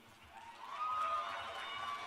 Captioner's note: cheers and applause